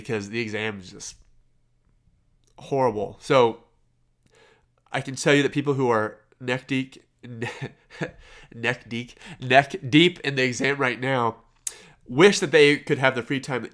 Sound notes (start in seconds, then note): 6.9 laughs